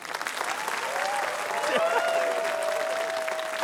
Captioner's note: cheering, applause